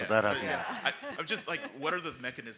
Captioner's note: people laughing